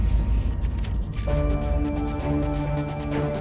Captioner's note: papers rustling